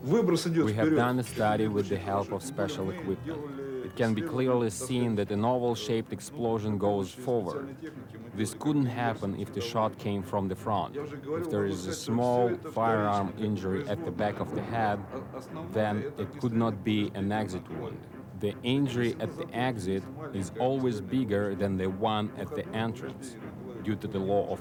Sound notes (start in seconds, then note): 8.4 speaks in foreign language